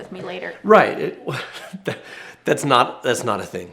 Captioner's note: laughs awkwardly